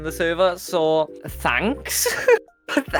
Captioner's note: laughs